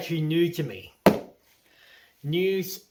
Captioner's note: thud